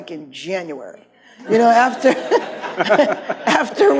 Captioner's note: laughs; audience laughs